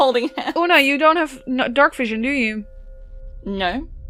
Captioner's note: low, ominous hum begins